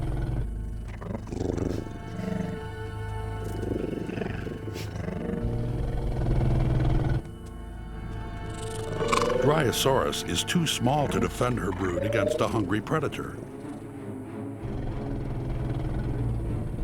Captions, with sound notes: [sniffs] Dryosaurus is too small to defend her brood against a hungry predator.